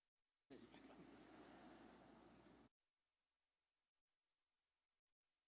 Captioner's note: audience laughing